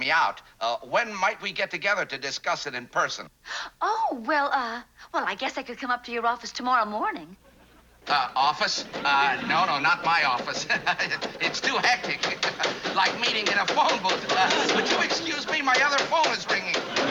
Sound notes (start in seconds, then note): 7.4 knocking; 10.3 laughs; 11.9 loud knocking